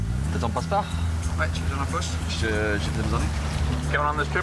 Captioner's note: conversation in foreign language